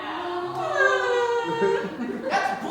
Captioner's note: mocking